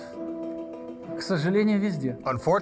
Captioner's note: speaking foreign language